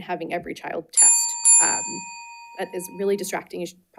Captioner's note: bell ringing